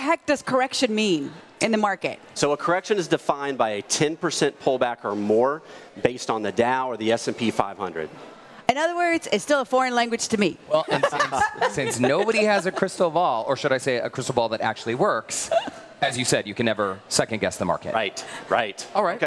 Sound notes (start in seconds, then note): 15.4 laughter